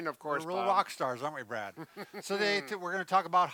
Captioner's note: chuckles half-heartedly